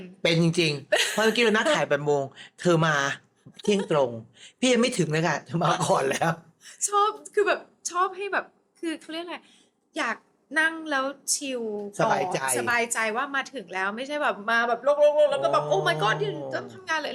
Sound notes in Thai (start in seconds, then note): 6.2 เสียงหัวเราะ